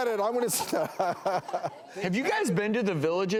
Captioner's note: laughs